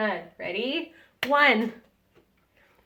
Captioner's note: woman clapping